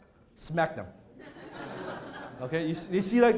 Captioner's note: laughter